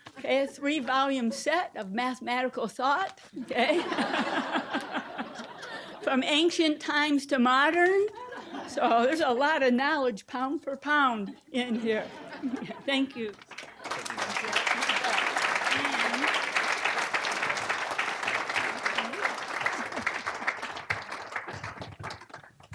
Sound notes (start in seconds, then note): 3.4 audience laughing; 11.6 audience laughing; 13.2 applause